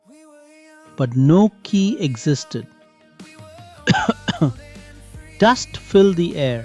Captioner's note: coughs